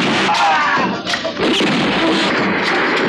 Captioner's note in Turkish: Silah sesleri